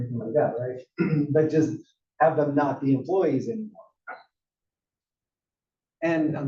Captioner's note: laugh; cough